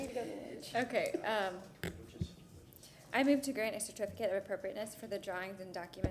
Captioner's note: laughter